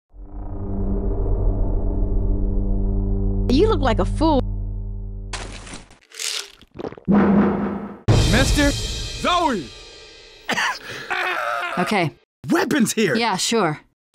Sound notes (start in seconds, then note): 6.0 pills shaking in bottle; 10.4 Bill coughing like he has the plague; 11.0 bill screaming